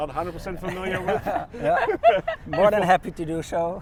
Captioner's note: all laugh